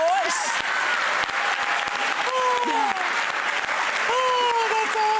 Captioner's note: audience clapping